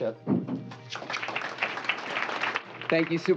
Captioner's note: applause